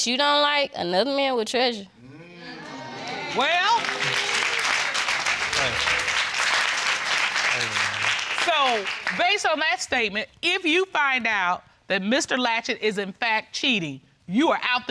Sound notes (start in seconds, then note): 2.5 audience exclaim and applaud